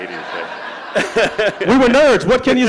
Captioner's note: laughing